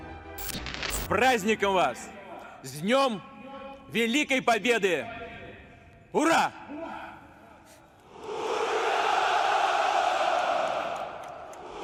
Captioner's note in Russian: ликование